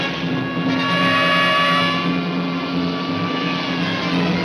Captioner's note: tires screech